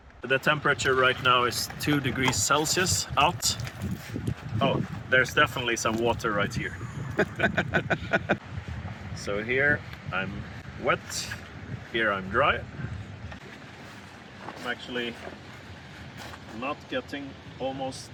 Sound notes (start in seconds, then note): 6.8 laughter